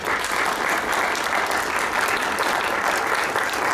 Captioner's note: applause